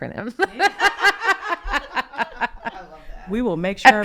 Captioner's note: group laughing